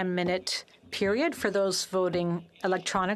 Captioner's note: speaking French